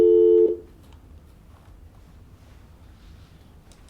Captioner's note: dial tone buzzing